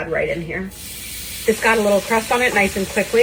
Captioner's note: steak sizzling